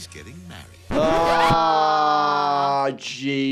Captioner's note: record scratching